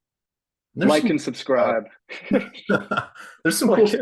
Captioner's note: laughter